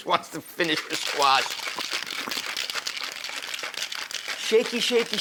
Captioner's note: ice in drink shaking